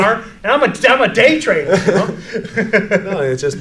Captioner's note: both laugh